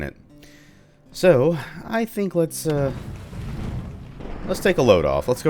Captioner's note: thunder